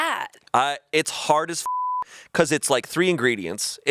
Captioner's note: beep